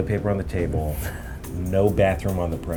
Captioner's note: chuckles